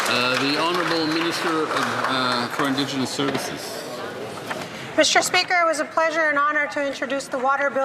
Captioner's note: some Applause